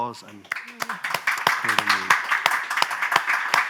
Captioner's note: applause